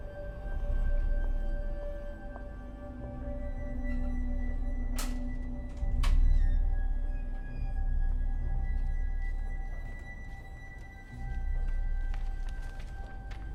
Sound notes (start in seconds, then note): 6.1 drawer clicks; 10.0 gentle ominous music